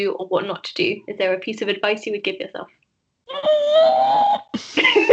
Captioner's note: screams